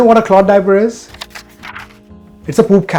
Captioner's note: page turning